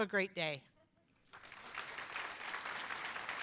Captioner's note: applause